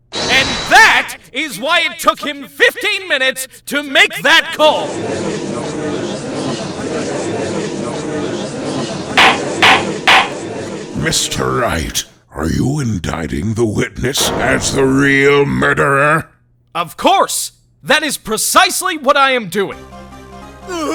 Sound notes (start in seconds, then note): 5.7 galley chattering; 10.0 gavel slams!